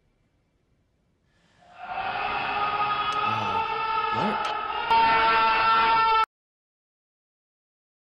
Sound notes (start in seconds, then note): 1.7 loud screaming over the intercom; 4.8 intense pain